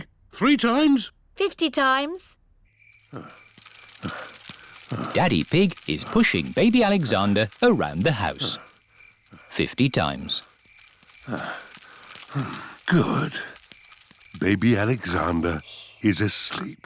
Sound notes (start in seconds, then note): 10.8 panting